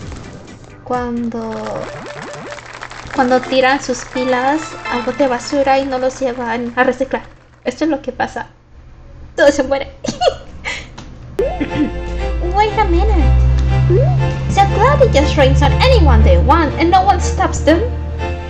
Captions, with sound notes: when you throw your batteries into the trashcan and you don't recycle them This is what happens, everyone dies. [laughs] [clears throat] "Wait a minute!" "So Cloudy just rains on anyone THEY want, and nobody stops THEM?"